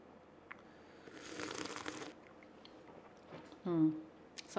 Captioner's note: coffee slurping